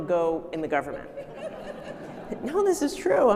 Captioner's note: audience laughing